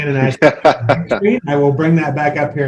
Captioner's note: laughs